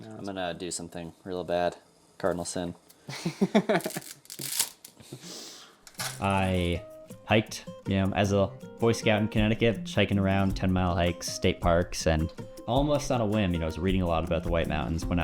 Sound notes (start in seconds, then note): 3.0 chuckles; 3.8 spaghetti snaps